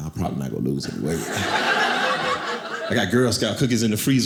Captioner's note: audience laughing